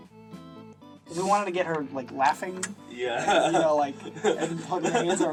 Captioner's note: laughs